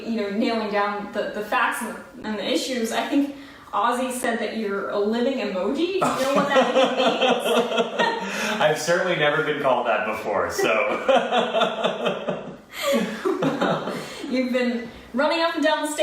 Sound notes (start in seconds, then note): 6.0 laughing; 10.9 laughs